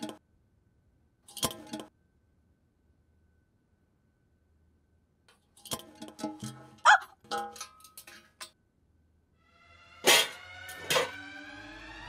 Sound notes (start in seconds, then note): 10.0 vessel clanking